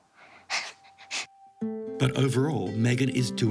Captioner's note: chuckles